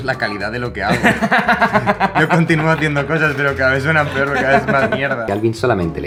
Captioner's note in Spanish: Risas